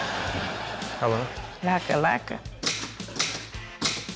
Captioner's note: typewriter clacks